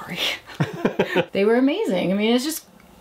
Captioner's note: both laugh